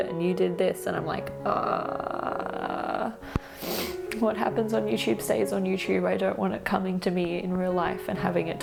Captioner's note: awkward groan